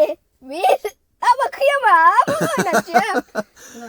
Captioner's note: laughing